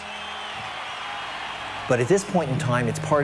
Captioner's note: audience applauding